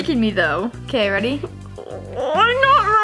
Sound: groans

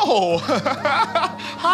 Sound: Jordan chuckling

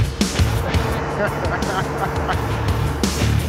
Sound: laughs

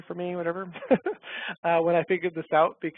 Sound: laughs

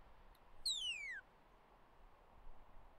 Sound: "Away" whistle command

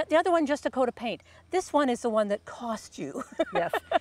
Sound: laughing

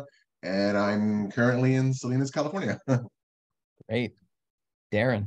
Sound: chuckles

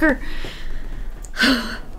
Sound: sighs

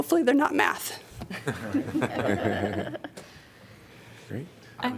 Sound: laughter

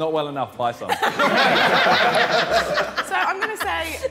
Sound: everyone laughing

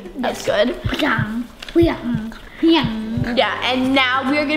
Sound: babbling

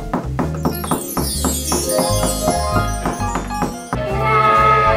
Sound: magical chimes

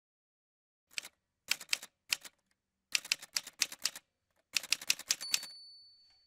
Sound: typewriter sounds

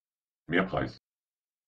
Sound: fast Pronunciation

